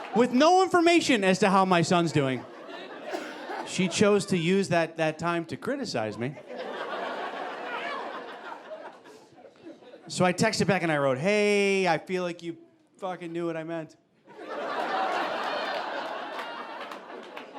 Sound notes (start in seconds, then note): 6.0 audience laughing; 14.2 audience laughing